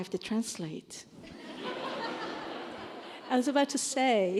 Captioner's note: laughter